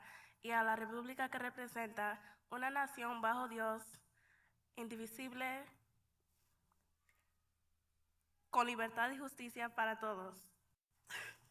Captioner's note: speaking in Haitian Creole; speaking in Spanish